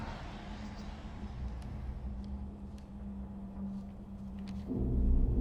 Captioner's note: eerie music; voices whispering; foreboding eerie music